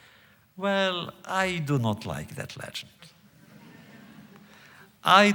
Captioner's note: laughter